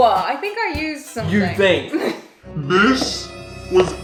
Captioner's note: laughs